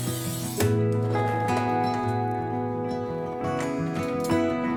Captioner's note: scratching